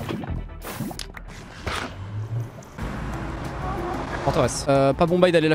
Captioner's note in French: bruits de portail puis de ghast